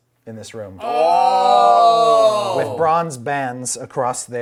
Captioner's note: oooing